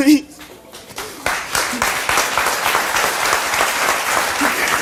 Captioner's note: audience applauds